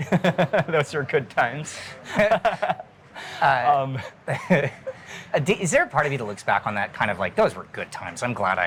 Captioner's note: laughing